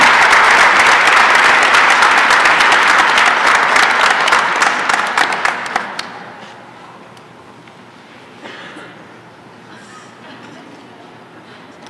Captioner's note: applause and cheering